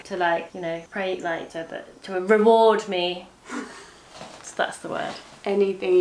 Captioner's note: laughs